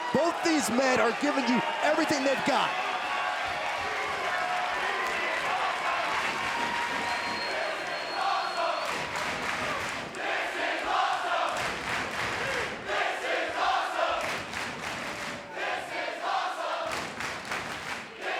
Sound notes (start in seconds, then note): 3.0 crowd cheering and clapping; 6.7 clapping; 8.8 clapping; 11.7 clapping; 14.2 clapping; 16.8 clapping